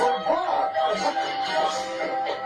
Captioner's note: laughs